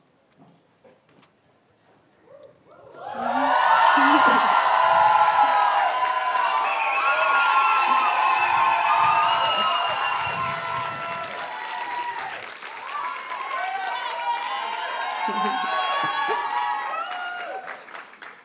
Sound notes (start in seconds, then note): 0.2 audience applauds; 5.1 audience cheers and applauds